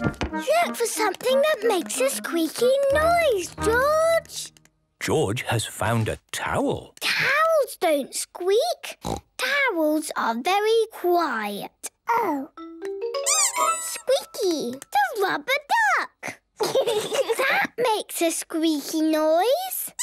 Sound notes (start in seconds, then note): 13.2 squeaks